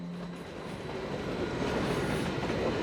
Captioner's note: train passes